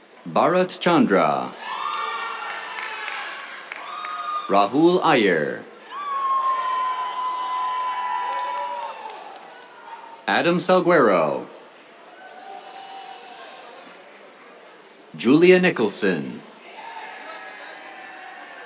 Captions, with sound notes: Bharat Chandra. [CHEERS, APPLAUSE] Rahul Iyer. [CHEERS, APPLAUSE] Adam Salguero. [CHEERS] Julia Nicholson. [CHEERS]